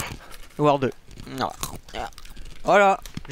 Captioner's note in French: crunch, crunch